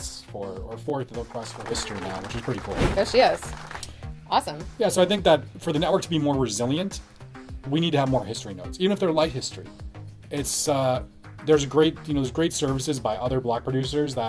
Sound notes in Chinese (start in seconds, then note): 3.2 鼓掌